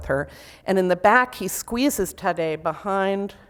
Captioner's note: foreign language